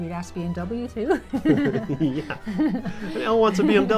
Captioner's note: laughs